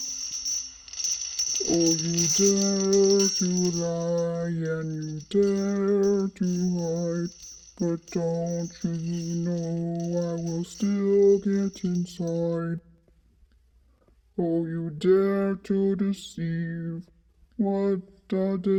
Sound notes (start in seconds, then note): 0.1 chains dragging; 11.2 chain drags